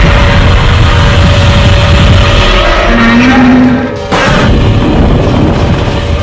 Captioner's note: Godzilla Roaring loudly